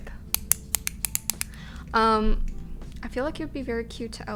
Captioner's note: pen clicking